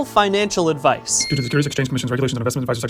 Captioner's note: ding!